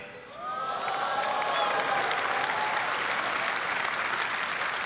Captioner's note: applause